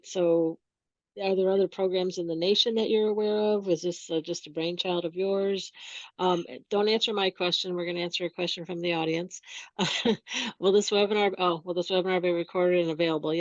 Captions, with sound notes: So are there other programs in the nation that you're aware of? Is this just a brainchild of yours? Don't answer my question. We're gonna answer your question from the audience. (laughs) Will this webinar, oh, "Will this webinar be recorded and available?"